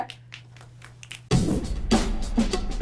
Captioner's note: snaps fingers; upbeat drums